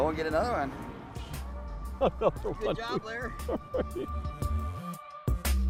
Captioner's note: laughing